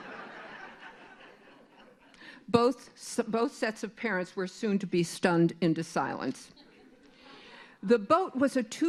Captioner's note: laughter